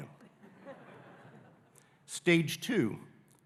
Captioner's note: audience laughing